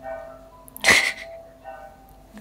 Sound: laughs

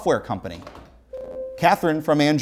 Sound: beeping

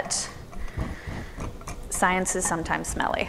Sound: whisking sound mixing in bowl

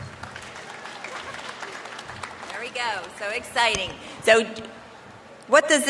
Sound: applause

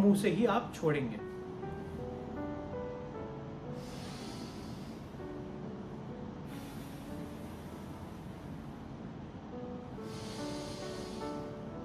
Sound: deep breath in; deep breath out

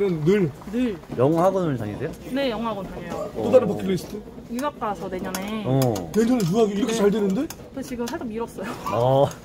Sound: laughing

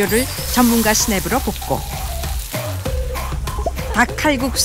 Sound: snap

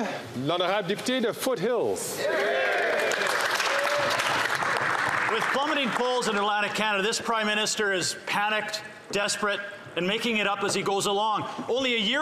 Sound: applause

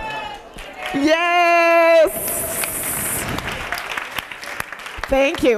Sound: applause

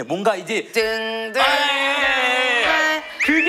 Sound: humming

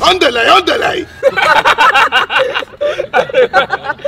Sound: laughing

